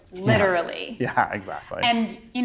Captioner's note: chuckles